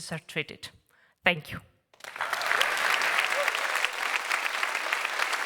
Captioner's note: applause